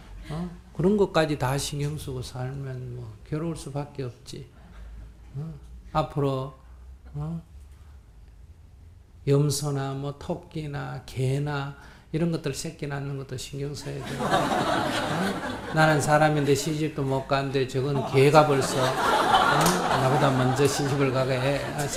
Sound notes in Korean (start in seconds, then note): 14.8 청중 웃음